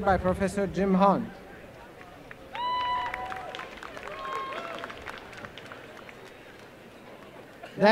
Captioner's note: applause